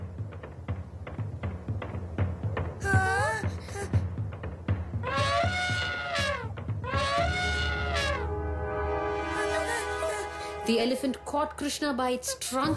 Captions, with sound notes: haanhhh hannh (trumpeting of elephant) The elephant caught Krishna by its trunk